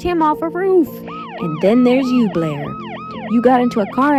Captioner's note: siren blaring